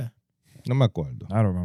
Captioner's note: speaking In Foreign Language